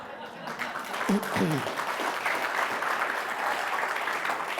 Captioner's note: audience applauding